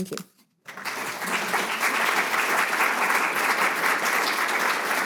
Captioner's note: audience applauding